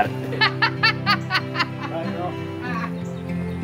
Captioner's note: laughs